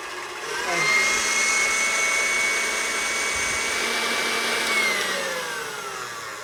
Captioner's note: stand mixer whirring intensifies